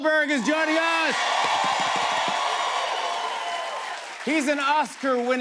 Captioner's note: cheers and applause